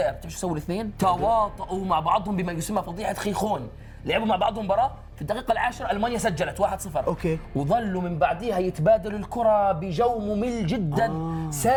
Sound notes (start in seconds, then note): none